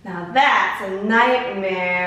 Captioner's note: none